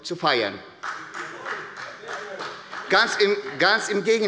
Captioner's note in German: Demonstrativer Beifall bei Abgeordneten der CDU